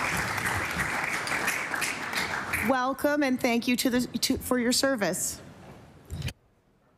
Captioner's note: applause